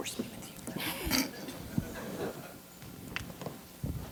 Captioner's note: chuckling